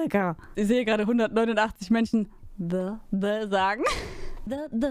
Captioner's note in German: lachen